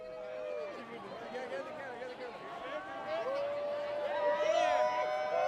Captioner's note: students cheering and laughing